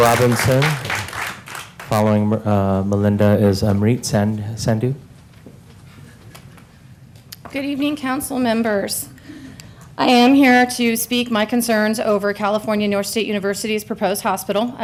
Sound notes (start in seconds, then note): 0.0 applause